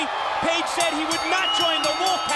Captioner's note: bell ringing